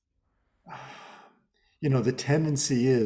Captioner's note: sighs